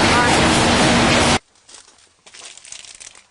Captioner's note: voiceover